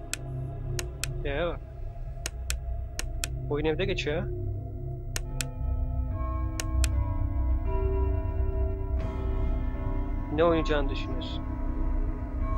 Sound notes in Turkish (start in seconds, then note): 1.4 sakin bir ses tonuyla